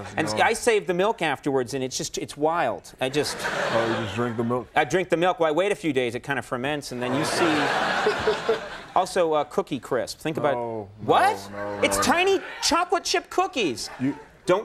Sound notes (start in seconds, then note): 3.1 audience laughing; 7.0 audience laughing